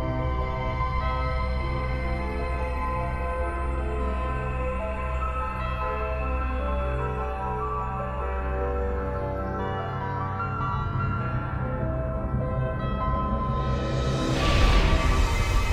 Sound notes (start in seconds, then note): none